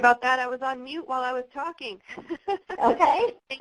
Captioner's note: laughter